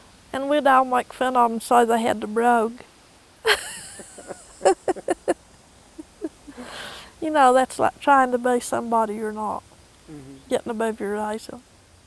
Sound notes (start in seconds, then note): 3.4 laughter